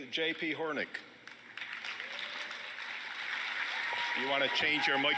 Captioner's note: applause